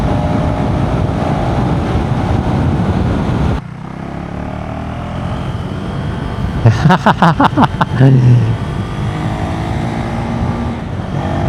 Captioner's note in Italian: risate